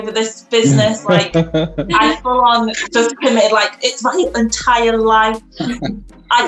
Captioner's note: laughs